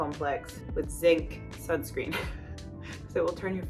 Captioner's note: laughs